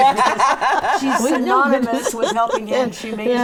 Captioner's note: laughing